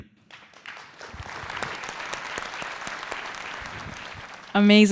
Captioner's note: audience applauding